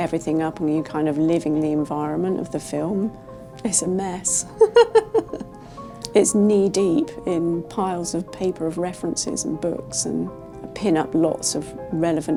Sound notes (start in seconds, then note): 4.6 laughs